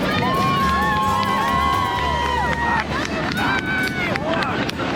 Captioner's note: people cheering